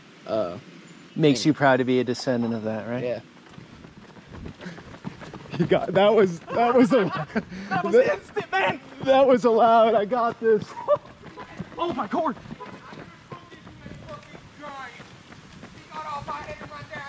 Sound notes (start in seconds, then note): 4.2 footsteps rapidly pounding; 13.3 friends faintly chattering